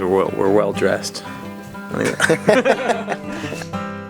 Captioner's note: laughing